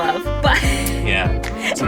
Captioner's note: laughs